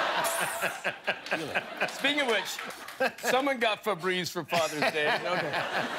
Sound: laughter

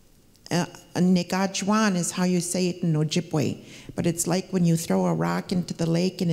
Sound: speaking Ojibwe

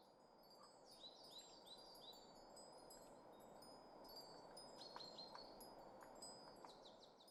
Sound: 바람이 불며 새가 지저귀는 소리

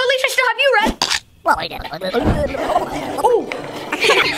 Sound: Red chomping

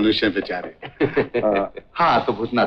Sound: laughs

